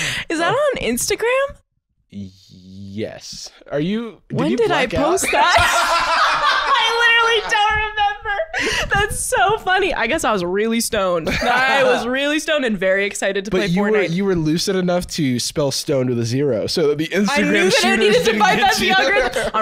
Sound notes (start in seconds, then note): 5.3 laughing